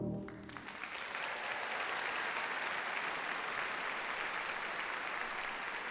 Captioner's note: audience cheers and applauds